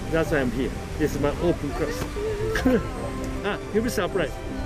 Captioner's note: laughs